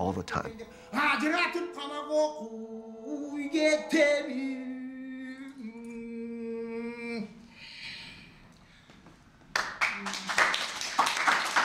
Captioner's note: applause